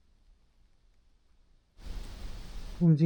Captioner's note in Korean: 조용